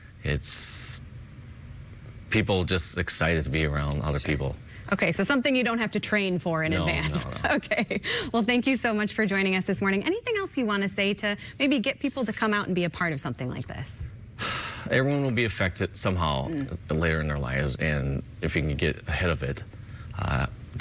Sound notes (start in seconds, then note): 6.9 chuckles